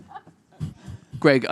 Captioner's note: audience laughing